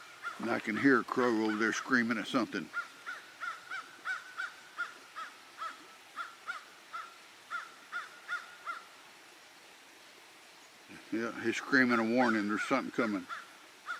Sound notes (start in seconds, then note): 2.7 crow cawing; 4.8 creek flowing